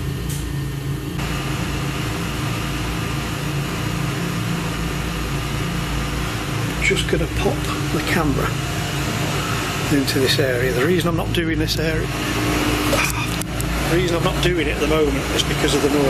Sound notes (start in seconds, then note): 12.3 machine whirring